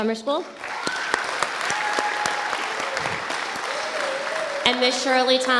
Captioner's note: audience applauding